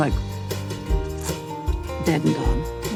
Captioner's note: makes sputtering sound